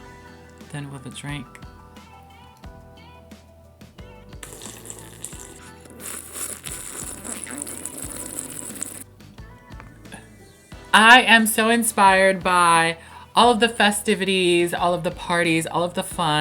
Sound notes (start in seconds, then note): 4.4 slurps